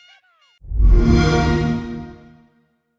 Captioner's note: Xbox Sound